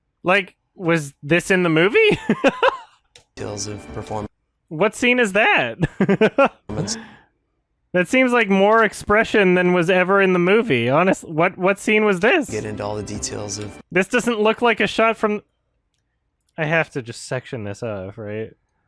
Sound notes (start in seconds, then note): 2.0 laughs; 5.8 chuckles